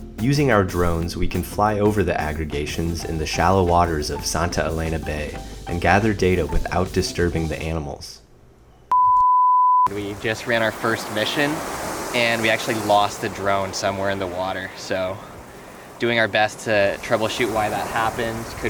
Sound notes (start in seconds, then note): 8.8 beep tone